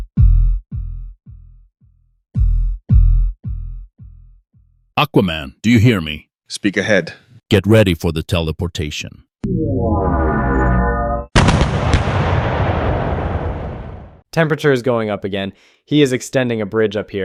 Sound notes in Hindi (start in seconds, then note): 9.1 आर्टिलरी बमबारी।